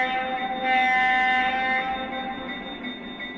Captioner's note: bell clangs